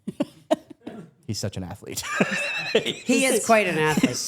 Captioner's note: laughs